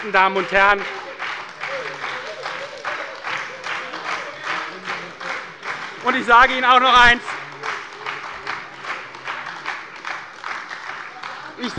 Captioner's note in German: Beifall bei der SPD, der LINKEN und der FDP - Unruhe